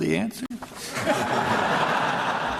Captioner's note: laughter